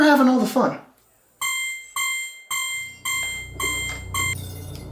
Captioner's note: alarm beeping